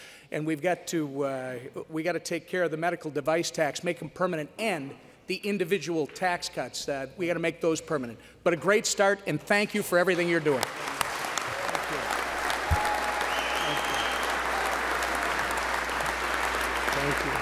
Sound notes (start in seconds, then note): 10.3 applause